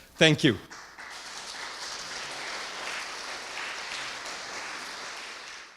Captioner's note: audience applauding